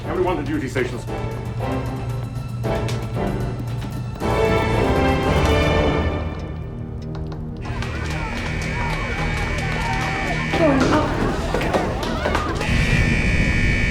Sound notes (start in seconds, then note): 6.7 slow suspenseful music; 7.6 alarm buzzing